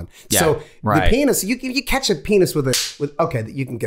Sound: Rob claps

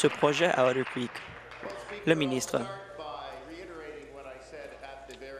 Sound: applause

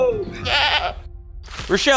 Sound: goat bleating

